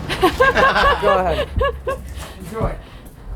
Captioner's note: laughs